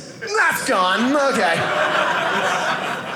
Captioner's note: audience laughing